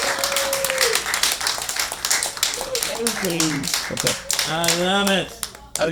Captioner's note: applause